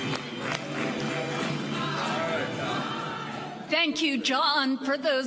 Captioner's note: applause